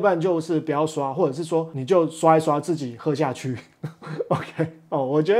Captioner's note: laughs